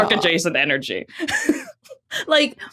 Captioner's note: giggles